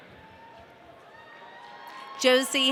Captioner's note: audience cheering